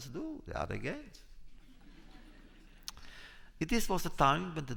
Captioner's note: laughter